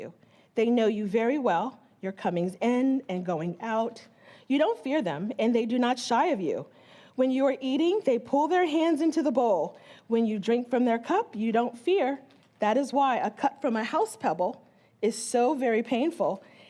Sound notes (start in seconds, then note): none